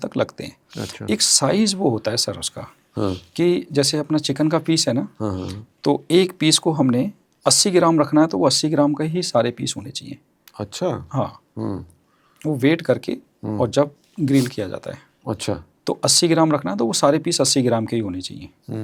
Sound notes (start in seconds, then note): 2.9 nasal sound